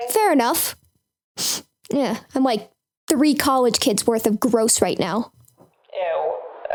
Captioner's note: sniffs